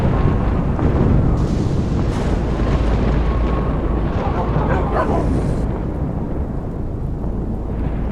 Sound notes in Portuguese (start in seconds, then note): 4.0 Sons de latidos